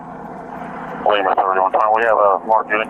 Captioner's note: radio chatter